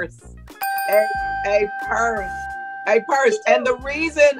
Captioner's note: bell dings